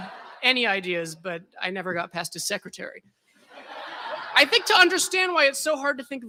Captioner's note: laughter